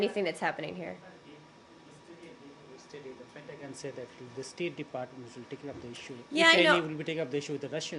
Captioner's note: off-mike